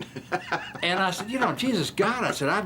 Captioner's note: laughing